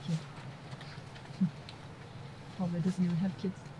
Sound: laughs

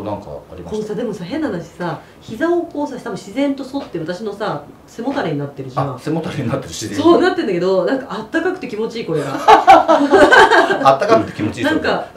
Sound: laughs

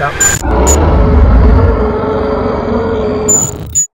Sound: loud roar

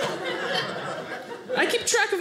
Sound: audience laughing

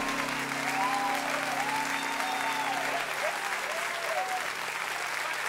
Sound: cheers and applause

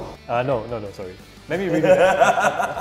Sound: laughs

